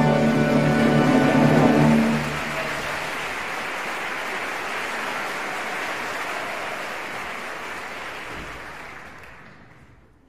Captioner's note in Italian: applauso